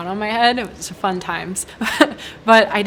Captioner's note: chuckles